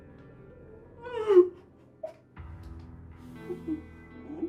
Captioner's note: Kathy crying